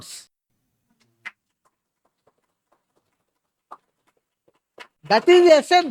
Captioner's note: claps